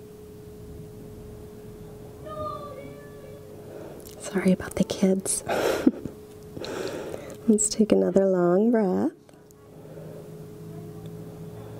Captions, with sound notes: (boy yelling) Sorry about the kids (giggles). Let's take another long breath,